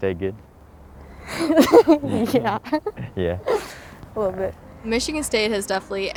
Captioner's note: laughs